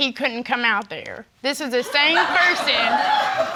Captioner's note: audience laughing